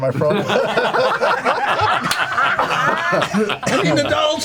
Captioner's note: all laugh